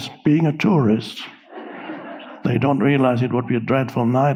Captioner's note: audience laughing